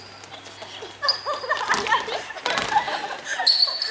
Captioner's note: laugh